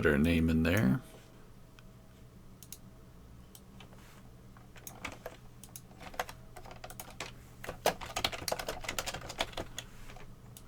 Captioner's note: computer mouse and keyboard clicking